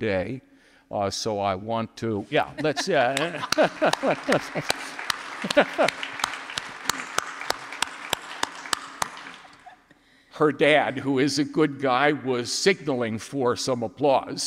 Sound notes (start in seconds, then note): 2.3 laughs; 2.6 audience applauding